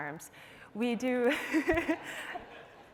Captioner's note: laughter